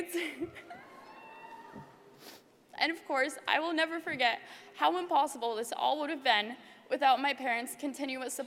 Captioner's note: laugh